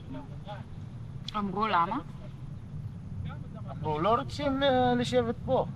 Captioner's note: speaking foreign language